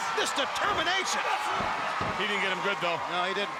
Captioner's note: audience cheering